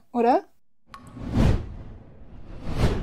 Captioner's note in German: Whoosh